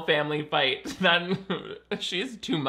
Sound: laughs

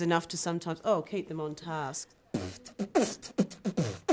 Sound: beat-boxes

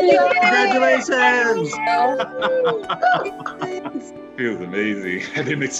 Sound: happy cheering; laughing; chuckling

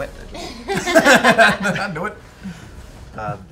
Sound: laughter

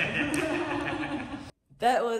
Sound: laughing

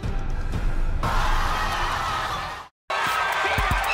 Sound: crowd cheering

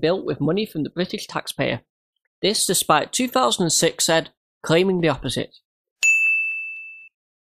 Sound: ding

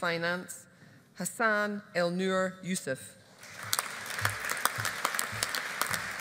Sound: audience applauding

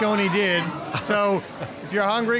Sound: laughs

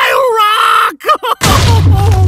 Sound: cries; loud explosion

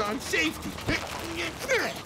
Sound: grunting

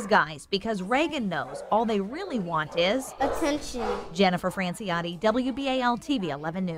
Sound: dogs barking

